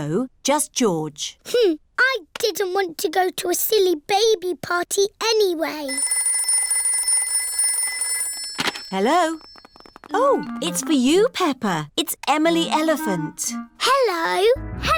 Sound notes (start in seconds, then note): 5.8 phone rings